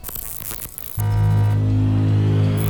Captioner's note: detector buzzes; ominous tone